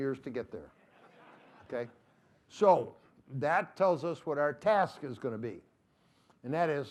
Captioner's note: laughter